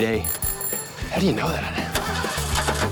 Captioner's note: in an unscripted American accent